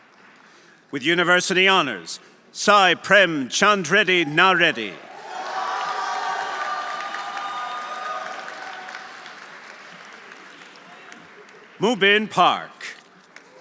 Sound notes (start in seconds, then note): 5.0 audience applauding; 5.7 audience cheering